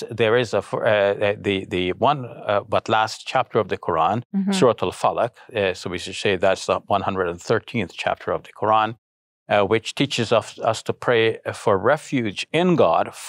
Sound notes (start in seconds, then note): 4.2 speaking in foreign language